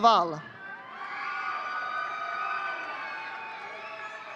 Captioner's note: audience cheering